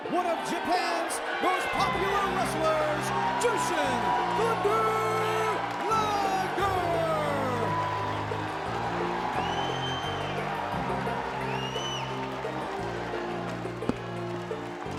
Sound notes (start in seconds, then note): 7.0 audience cheering; 7.0 cheerful music